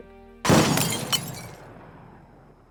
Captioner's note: gunshot